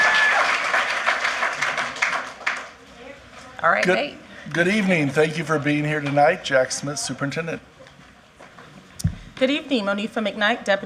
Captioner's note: applause